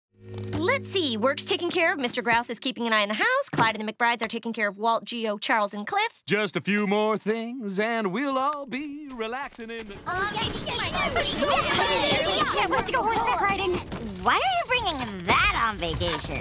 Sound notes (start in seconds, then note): 10.3 overlapping chatter